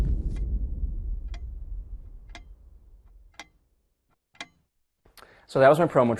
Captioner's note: clock ticking